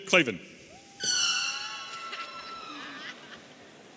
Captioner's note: audience cheering; audience chuckling